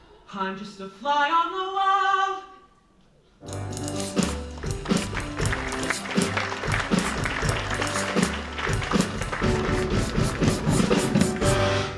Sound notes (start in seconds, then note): 4.4 applause